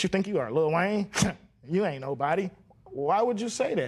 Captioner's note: scoffs